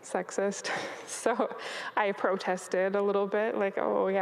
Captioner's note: chuckles